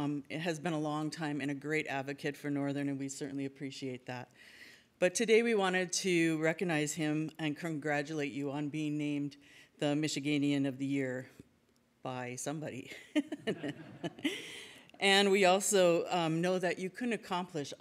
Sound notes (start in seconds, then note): 12.9 laughs; 13.4 audience laughs